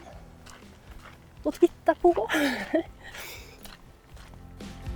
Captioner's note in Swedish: skratt